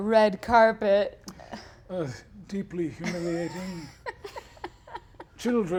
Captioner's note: giggles